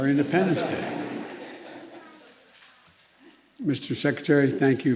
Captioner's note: laughter